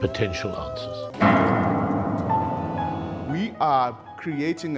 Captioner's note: loud bang